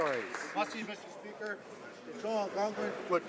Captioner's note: some Applause